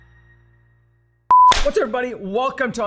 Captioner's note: beep